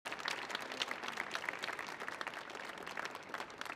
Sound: audience applauding

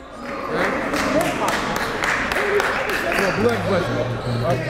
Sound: applauding

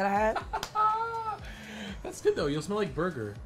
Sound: laughs

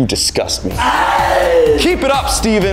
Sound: scream of agony

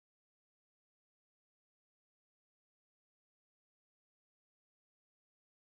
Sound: none

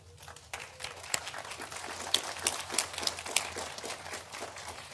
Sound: audience applauding

